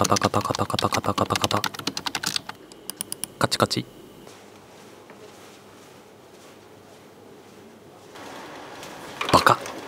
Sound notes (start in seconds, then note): 2.7 clicking noises